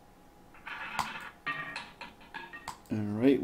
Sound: ball rolling

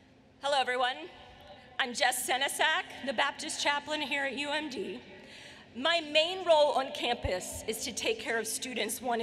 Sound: none

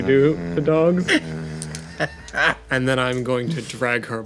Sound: laughing

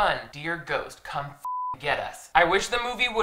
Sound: beeps

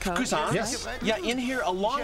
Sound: non-english speech

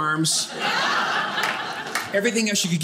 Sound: audience laughing

